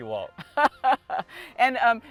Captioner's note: laughter